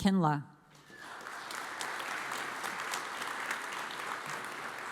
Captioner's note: audience applauds